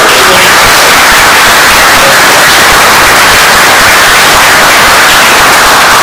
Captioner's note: oklaski